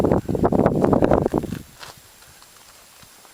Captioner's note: wind Blowing and walking sounds